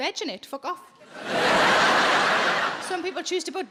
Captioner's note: audience laughing